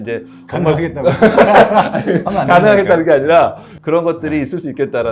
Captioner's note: laughing; laughs